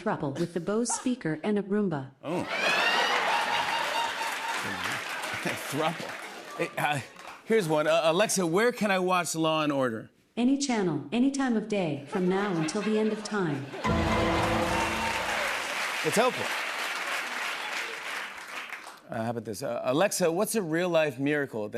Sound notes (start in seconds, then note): 2.4 laughter; 13.6 double tone